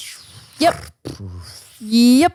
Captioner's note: mouth flapping